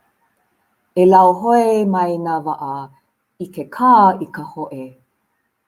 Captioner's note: foreign language